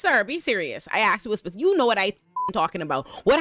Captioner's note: beep